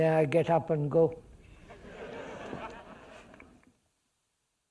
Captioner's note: laughter